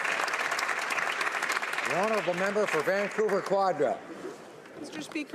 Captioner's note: some Applause